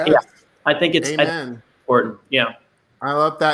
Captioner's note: voice muffled